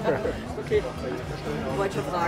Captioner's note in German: lachen